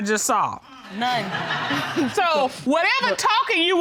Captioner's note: laughter